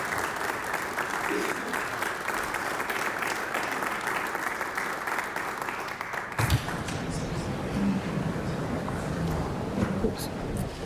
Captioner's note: applause